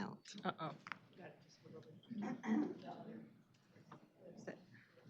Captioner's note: indistinct chatter